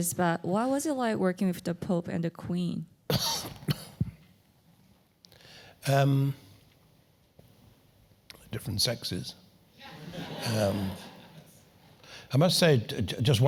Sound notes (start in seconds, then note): 3.1 cough; 9.8 laugh